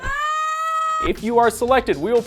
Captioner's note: screaming